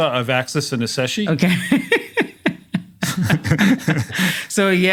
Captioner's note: laugh